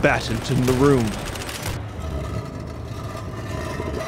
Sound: guns fire

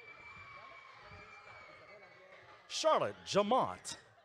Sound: audience cheering

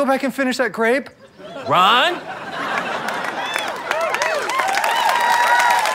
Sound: audience cheering

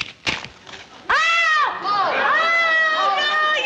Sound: crunching; screaming

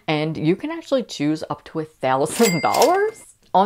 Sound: cash register opening

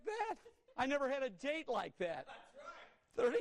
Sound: laughter

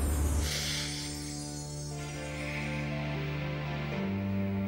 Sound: breathing heavily

